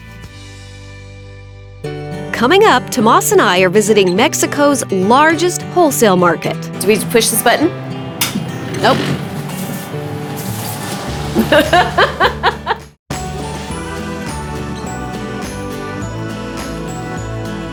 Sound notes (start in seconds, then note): 11.3 laughing; 13.1 bright music